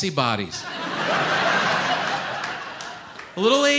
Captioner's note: audience laughs